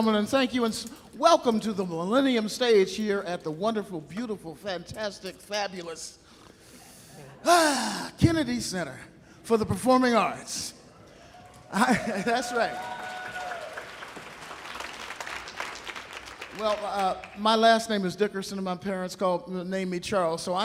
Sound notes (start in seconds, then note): 11.4 audience cheering; 11.8 audience applauding